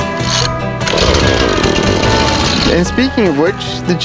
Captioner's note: chainsaw rumbles on